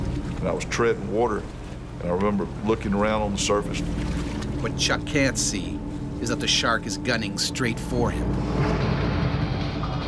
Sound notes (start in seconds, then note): 4.5 voiceover